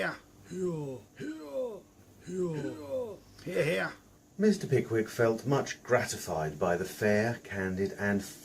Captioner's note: cries of "Hear Hear"